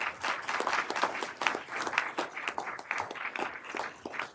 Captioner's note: everyone applauding